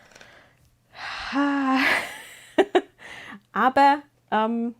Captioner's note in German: seufzt